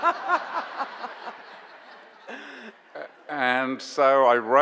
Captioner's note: audience laughs